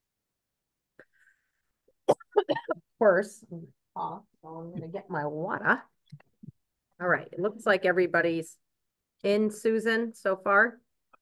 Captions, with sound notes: (coughs) First, I have cough, so I'm gonna get my water. All right, it looks like everybody's in Susan so far.